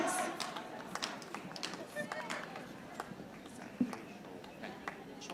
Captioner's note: audience applauding